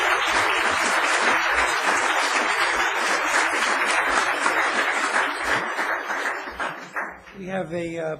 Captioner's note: applause